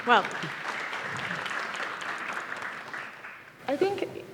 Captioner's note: audience applauds